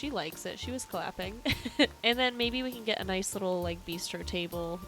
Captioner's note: chuckles